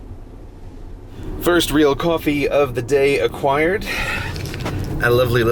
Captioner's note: sigh of contentment